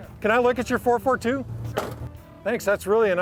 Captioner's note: door slams shut